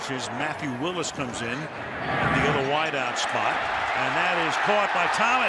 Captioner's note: cheering